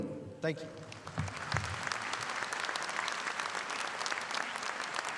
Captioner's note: audience applauding